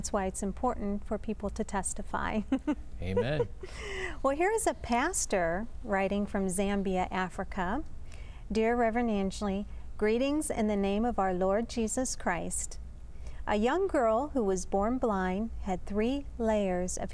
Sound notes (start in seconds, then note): 2.4 laughter